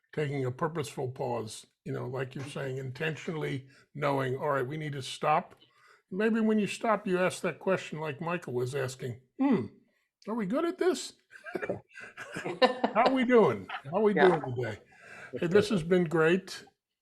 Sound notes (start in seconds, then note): 11.4 laughing